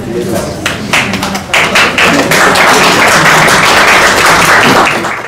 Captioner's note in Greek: χειροκρότημα